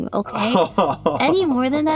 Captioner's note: laughs